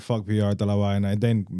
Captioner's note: speaking In Foreign Language